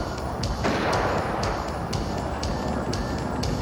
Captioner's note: gun firing